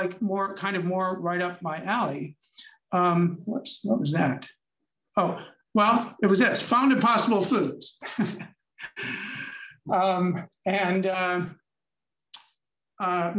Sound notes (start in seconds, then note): 8.0 chuckles